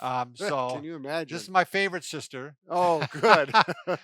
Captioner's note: laughs